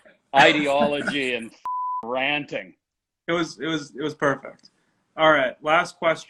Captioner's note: beep